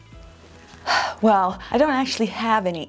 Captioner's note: sighs